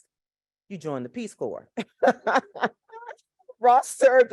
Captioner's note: laughs